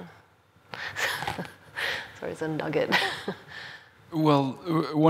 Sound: laughs

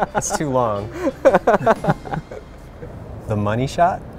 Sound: laughing

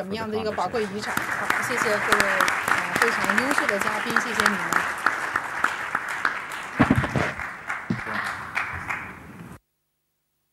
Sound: applause

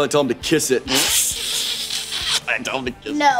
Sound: laughing

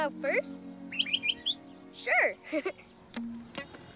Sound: chirps; chuckles

